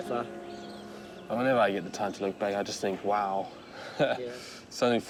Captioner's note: chuckles